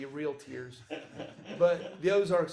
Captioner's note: laughs